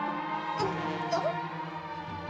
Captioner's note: groaning